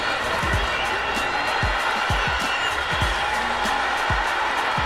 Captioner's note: cheering